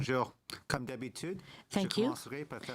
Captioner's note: speaking French